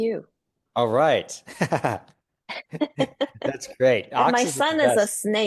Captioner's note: laugh